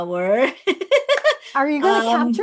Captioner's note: laughs